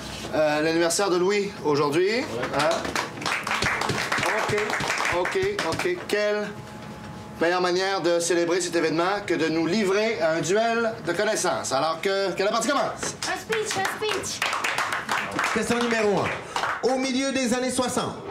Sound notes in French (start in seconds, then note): 2.4 Applaudissements